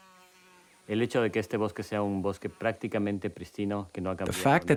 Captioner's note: speaks foreign language